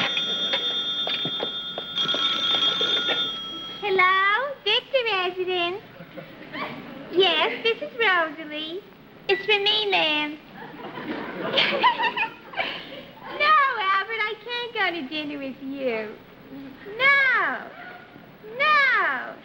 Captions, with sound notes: [RING] HELLO? VICTOR RESIDENCE. YES, THIS IS ROSALEE. IT'S FOR ME, MA'AM. [GIGGLES] NO, ALBERT, I CAN'T GO TO DINNER WITH YOU. NO. NO.